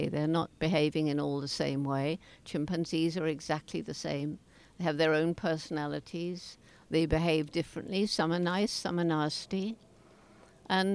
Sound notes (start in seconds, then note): none